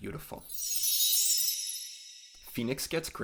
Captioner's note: chime sound